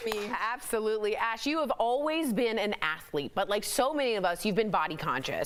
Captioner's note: applause